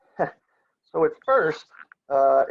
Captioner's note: laughs